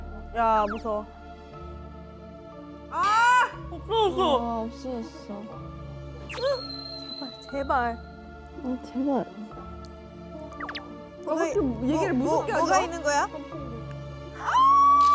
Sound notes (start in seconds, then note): 10.5 peep